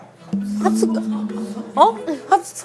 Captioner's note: murmuring